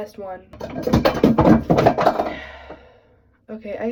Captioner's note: something falls on the floor